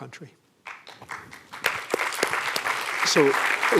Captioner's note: applause